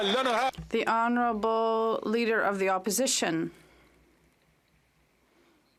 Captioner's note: some Applause